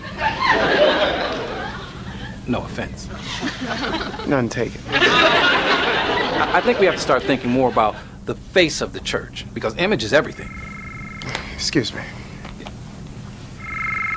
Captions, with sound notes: (audience laughs) No offense - None taken. (audience laughs) - I think we have to start thinking more about the face of the church because image is everything. (phone ringing) - Excuse me.